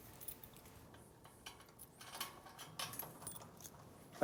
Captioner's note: lock rattling